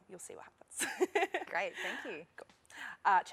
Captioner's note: laughter